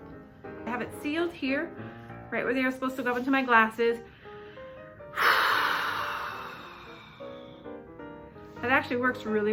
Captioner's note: blows air